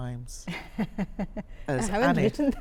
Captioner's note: laughs